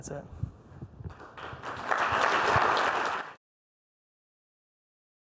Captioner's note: audience applauds